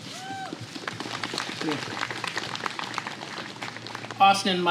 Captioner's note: applause